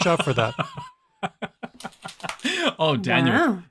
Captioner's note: laughs